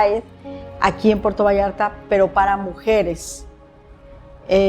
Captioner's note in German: spricht Spanisch